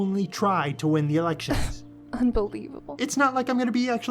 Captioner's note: scoffs